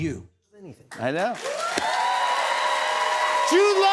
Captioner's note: cheers and applause